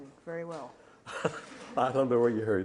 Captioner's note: laughs